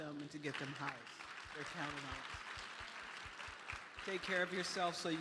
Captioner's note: applause